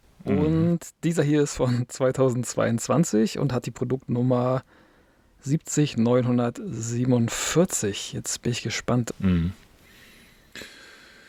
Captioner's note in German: seufzt